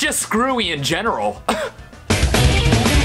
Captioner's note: cough